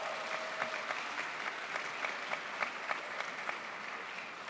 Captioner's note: crowd applauds